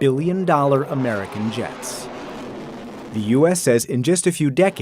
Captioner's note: jet engines roaring